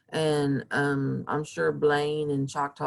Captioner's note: none